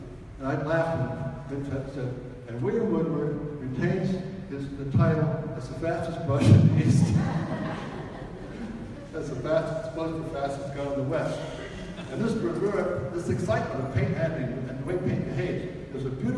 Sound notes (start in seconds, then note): 6.7 audience laughs